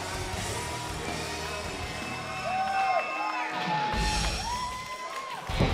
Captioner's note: crowd cheering